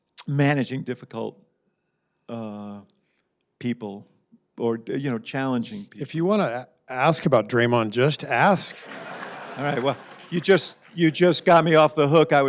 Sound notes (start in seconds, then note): 8.6 laughter